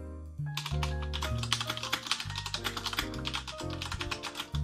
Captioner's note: jazz music; keyboard clacking